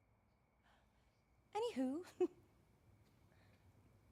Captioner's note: chuckles